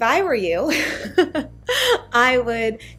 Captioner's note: laughs